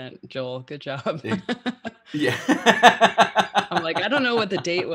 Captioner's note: laughing